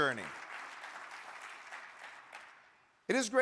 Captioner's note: audience clapping